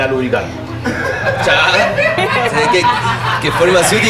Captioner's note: laughs